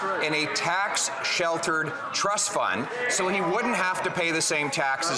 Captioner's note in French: voix de l'interprète